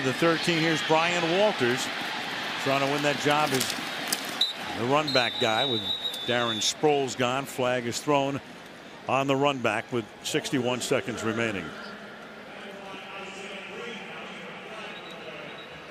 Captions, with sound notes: Back to the 13. Here's Brian Walters trying to win that job as the runback guy with Darren Sproles gone. Flag is thrown on the runback with 61 seconds remaining. [pa announcement]